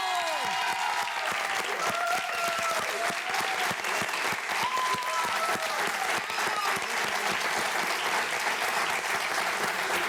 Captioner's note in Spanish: Aplausos